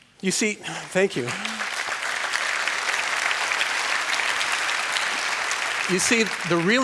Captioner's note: applause